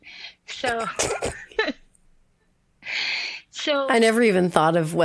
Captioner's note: chortles